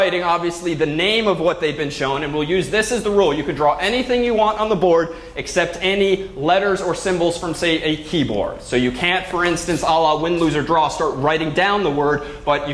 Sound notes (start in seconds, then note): none